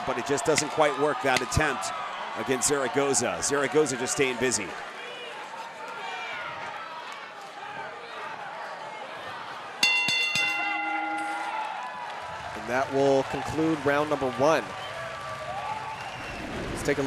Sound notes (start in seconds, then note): 5.9 audience cheering; 9.8 bell rings